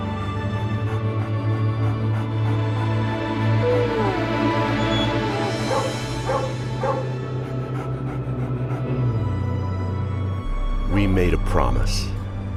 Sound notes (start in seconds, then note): 0.2 panting; 3.7 whines; 5.9 barks and pants; 9.3 bus engine revving